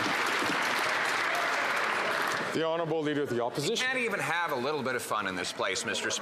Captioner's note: some Applause